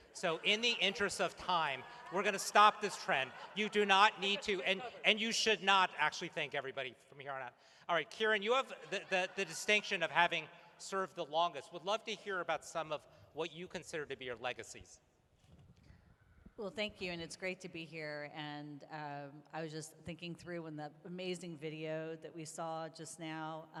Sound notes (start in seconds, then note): 6.9 laughter